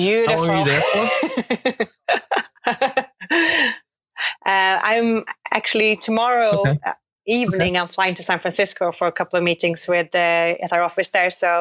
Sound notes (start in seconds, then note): 2.7 laughing